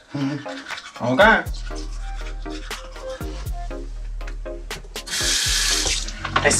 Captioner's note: spits in the sink and runs water